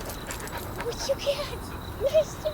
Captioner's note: dog panting